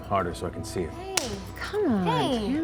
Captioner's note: slap